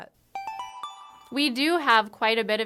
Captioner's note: chime